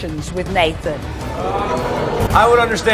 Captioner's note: audience expresses digust